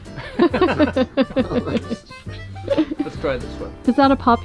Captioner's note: laughing